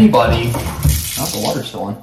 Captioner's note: water pouring